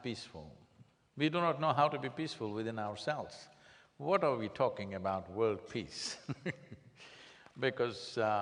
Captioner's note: laughs